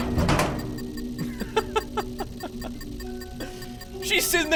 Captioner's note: laughs